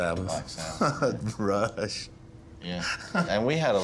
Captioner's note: laughter